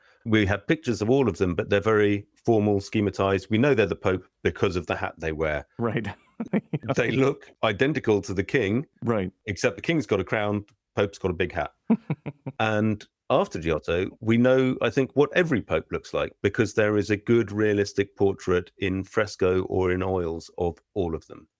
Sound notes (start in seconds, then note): 6.4 laughter; 11.9 laughter